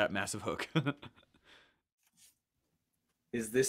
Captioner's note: laughs